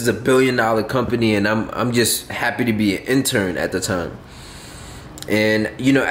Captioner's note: huffing